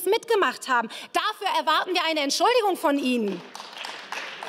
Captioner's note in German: Beifall